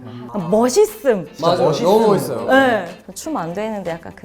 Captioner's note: in unison: So cool